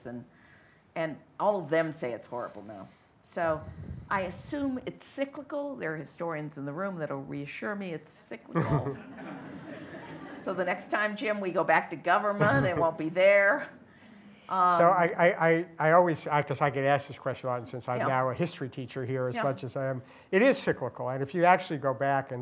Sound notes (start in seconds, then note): 8.5 laughter